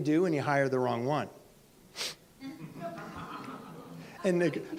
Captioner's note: audience laughs